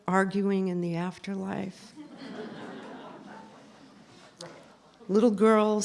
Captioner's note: laughter